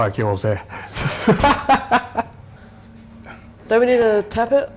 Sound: laughing

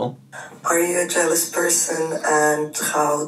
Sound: voice On Voice Memo

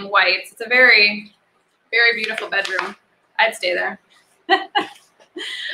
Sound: laughs

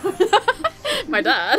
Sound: laughing

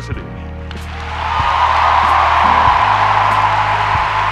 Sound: crowd cheers

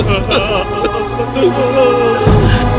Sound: wailing

